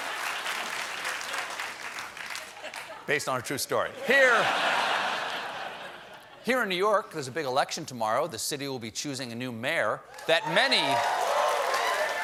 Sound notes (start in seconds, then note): 0.0 applause; 0.2 laughter; 7.1 laughter